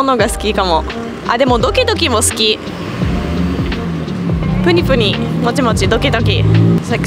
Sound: heartbeat

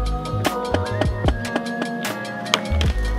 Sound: board clapping

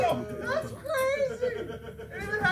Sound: laugh

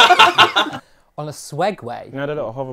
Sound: people laughing

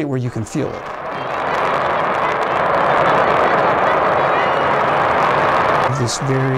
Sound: sound of blastoff

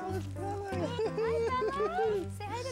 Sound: chuckling, cooing

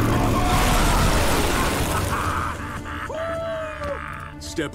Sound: laughing

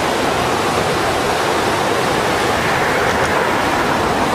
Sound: water rushing loudly

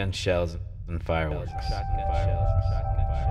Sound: echoing

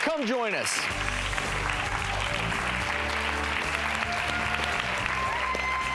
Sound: audience applauding and cheering

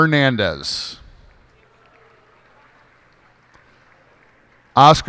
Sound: cheers and applause

